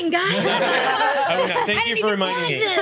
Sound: laughs

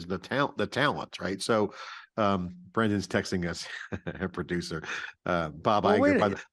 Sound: chuckles

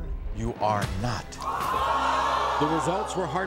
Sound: audience gasps

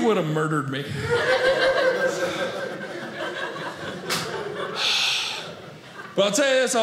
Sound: audience laughing

